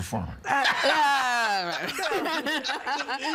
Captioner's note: laughing